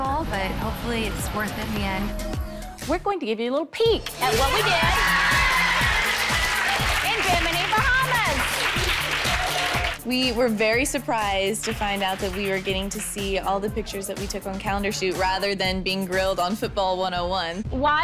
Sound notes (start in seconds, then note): 4.0 crowd exclaims and claps; 9.2 clapping